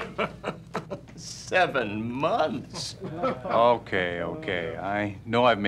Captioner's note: laughing